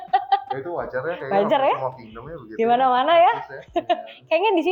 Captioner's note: laughs